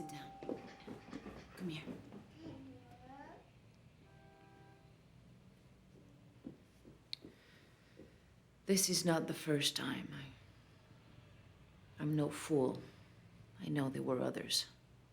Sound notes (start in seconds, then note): 4.0 horn honks in distance